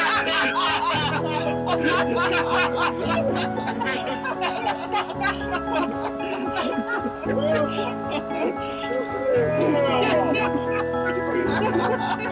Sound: laughing

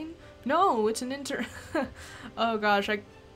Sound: laughs

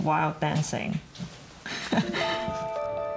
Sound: laughs

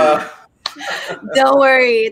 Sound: group laughing

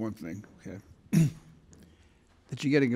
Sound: clears throat

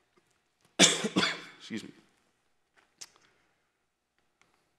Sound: coughing

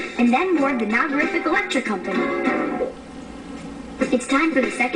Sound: none

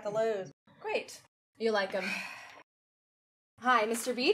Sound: sighing

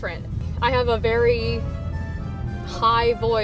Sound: none

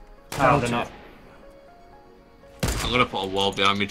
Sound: guns firing

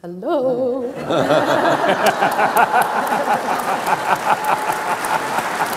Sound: laughing and applauding

